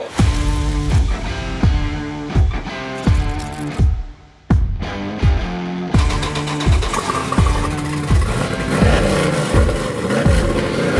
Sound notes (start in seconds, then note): 0.1 upbeat Rock Music; 5.9 engine Starting & Revving